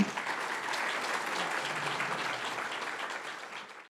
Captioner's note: audience applauds